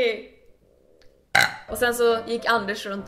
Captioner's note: burp